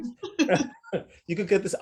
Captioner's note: both laugh